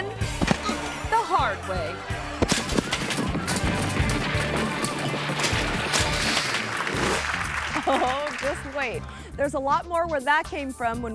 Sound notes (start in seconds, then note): 0.2 body thuds; 2.1 body thumping; 2.5 metal clanking; 6.8 audience clapping; 6.8 image whooshes